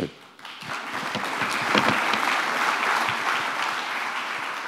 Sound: crowd applauding

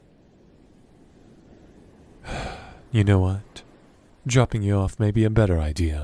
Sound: sighs

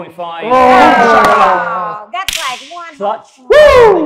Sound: cheering

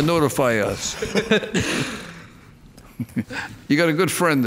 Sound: laughing

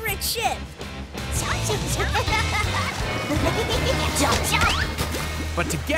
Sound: chomping

